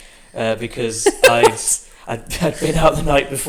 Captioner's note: laughs